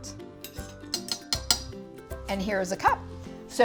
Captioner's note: knife dinging